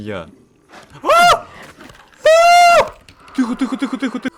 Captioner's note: shout